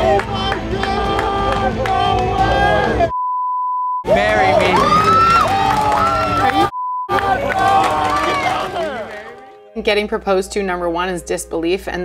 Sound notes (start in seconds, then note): 3.1 beep; 4.0 challengers cheering; 6.7 beep; 7.1 challengers cheering